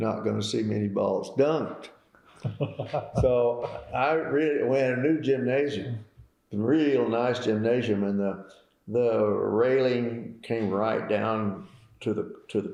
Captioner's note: laughter